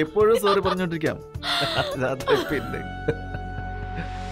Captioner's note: Laughing